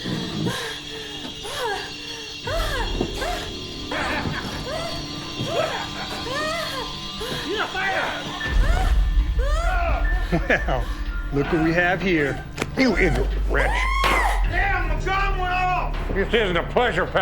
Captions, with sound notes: (lady breathing heavily) (chuckles) - Well, look what we have here. - You ignate wretch. (lady screaming) This isn't a pleasure palace.